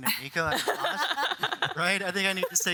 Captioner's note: all laugh